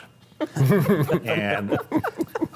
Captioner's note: panelists laughing